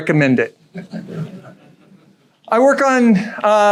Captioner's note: audience chuckles